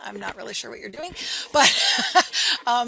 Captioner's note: laughing